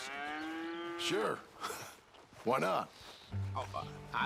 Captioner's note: chuckles